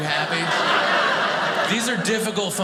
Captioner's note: audience laughing